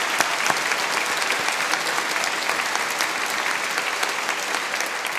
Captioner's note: applause